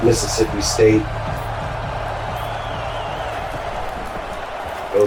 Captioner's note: crowd Noises